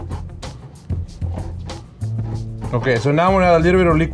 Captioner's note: stone grinding